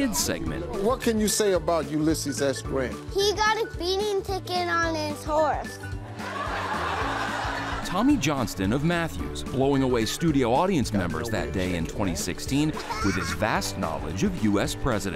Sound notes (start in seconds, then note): 6.1 audience laughing